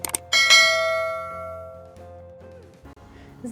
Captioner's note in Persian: صدای زنگ